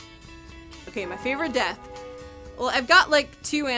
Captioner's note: bell tolling